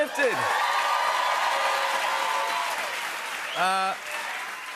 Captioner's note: cheers and applause